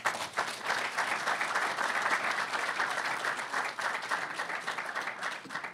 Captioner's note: audience applauding